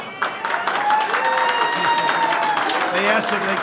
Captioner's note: applause